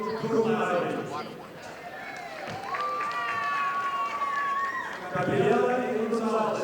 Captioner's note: audience applauding